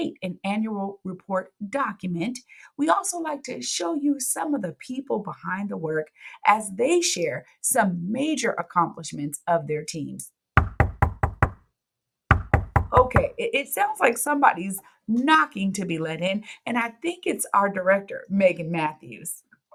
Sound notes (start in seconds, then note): 10.6 audio: door knocking